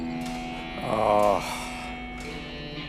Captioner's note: groans